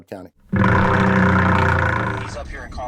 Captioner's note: ratchet thrumming